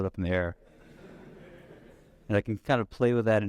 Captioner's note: audience laughs